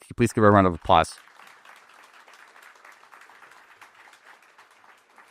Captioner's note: applause